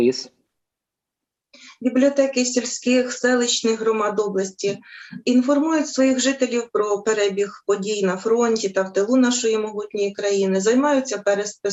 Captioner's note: foreign Language